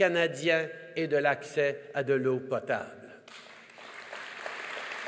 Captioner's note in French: Applaudissements